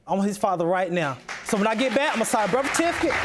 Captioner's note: audience applauding